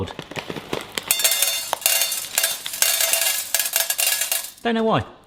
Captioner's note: popcorn kernels hitting metal